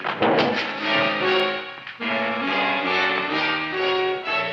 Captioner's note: burglar thumping